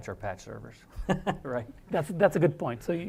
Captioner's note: laugh